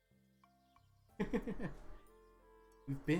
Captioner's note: laughs